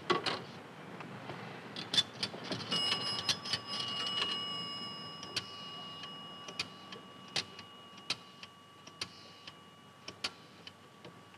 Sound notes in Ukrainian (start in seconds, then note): 3.2 кидання монет; 6.6 клацання циферблата